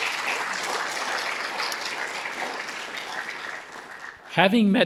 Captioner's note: audience applauding